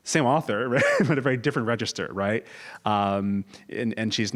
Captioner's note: laugh